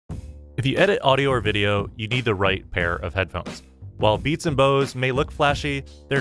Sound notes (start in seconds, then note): 0.1 voiceover